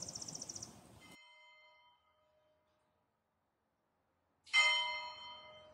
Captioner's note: church bells ring